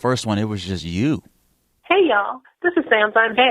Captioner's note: soundbite of archived npr broadcast